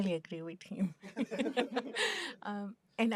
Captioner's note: laughter